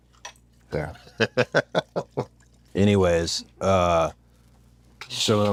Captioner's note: laugh